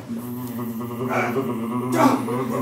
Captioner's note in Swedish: psykiska kraft-ljudvågor